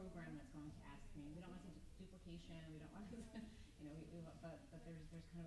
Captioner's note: stammers